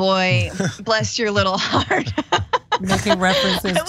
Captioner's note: laugh